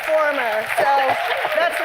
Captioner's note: cheers and applause; laughter